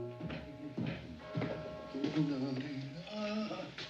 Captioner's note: HUMMlNG